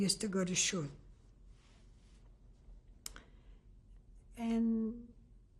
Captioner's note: pauses for 3 seconds